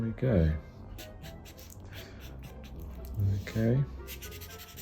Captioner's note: pen scratching